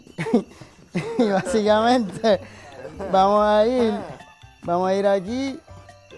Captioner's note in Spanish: risas; risas, comentarios